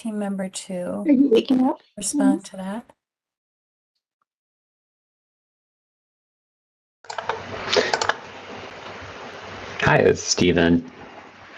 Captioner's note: background conversations